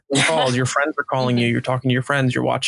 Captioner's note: laughing